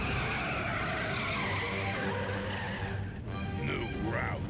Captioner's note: brakes screeching